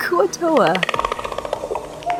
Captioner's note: alien clicking